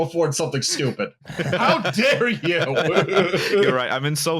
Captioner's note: laughter